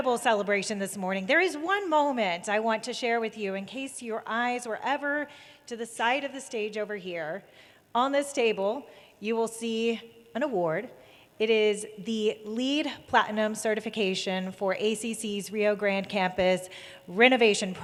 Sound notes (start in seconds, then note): none